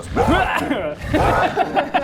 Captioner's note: rawr!